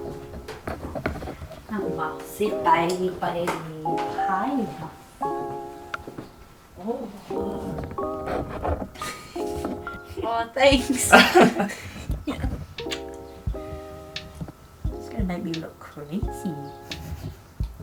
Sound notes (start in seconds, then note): 8.4 laughs; 10.8 laughter